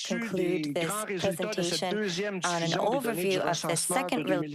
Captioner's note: speaking French